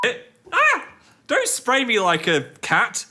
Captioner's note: beep; screams